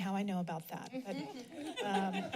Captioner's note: laughs